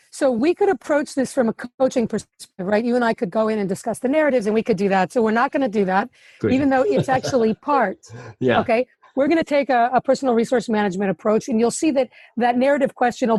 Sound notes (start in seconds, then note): 6.4 laughs